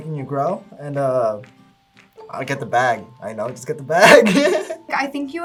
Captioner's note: laughs